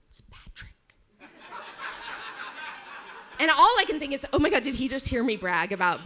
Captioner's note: audience laughs